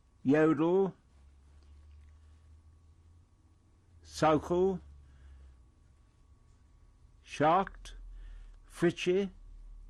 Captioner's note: pauses for 3 seconds